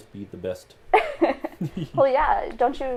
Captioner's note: laugh